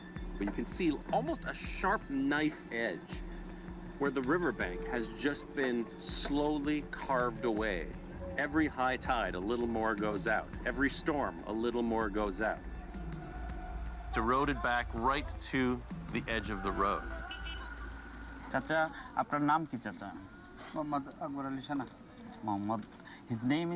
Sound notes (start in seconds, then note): 19.0 speaking Bengali